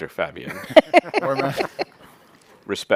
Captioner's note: laughter